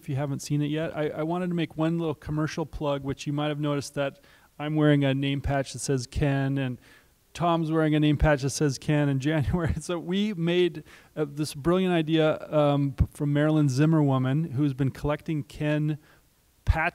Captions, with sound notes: haven’t seen it yet. I wanted to make one little commercial plug, which you might’ve noticed that I’m wearing a name patch that says Ken, and Tom is wearing a name patch that says Ken, and January [laughs]. So, we made this brilliant idea from Marilyn Zimmerwoman, who has been collecting Ken patches—name